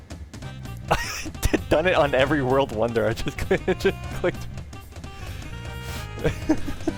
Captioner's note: laugh; laughing